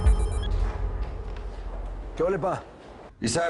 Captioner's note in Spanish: Suena el celular